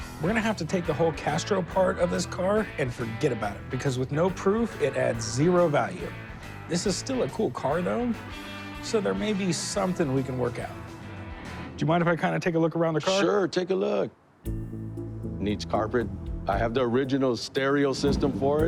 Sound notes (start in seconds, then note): none